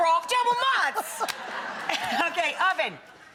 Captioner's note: audience laughing